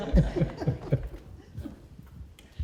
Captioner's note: laughter